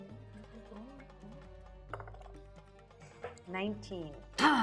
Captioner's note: die rolling